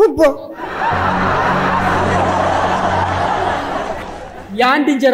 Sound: laughter

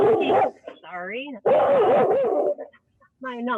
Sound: dog barking

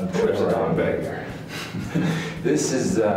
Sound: both chuckles

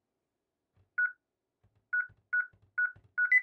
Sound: beeping

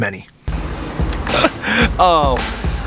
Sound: laughs

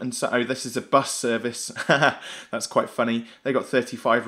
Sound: laughs

